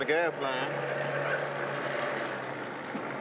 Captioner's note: engines rumbling